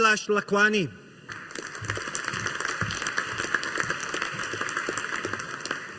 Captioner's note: audience applauding